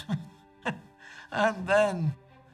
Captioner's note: chuckles